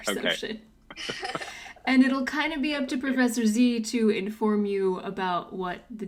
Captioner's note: laughter